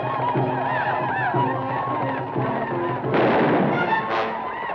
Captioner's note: native Americans howl; gun fires